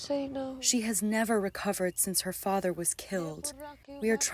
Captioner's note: through translator